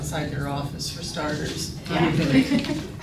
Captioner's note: audience chuckling